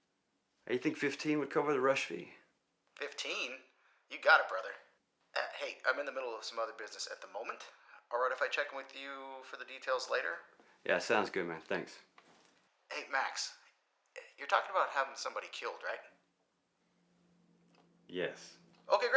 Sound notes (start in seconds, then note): 2.7 Marco On Phone; 12.7 Marco On Phone